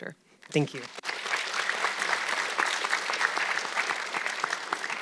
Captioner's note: audience clapping